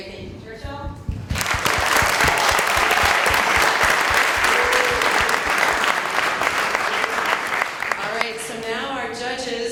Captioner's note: cheers and Applause